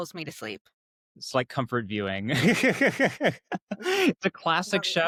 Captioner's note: laughing